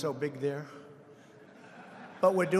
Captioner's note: laughter